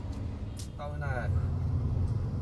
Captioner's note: in vietnamese